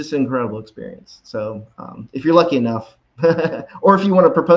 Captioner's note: laughs